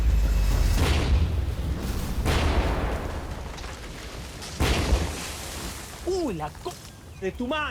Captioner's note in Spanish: Explosiones